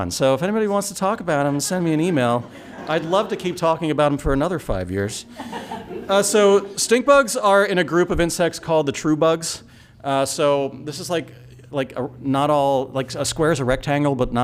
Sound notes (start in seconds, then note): 5.2 laughter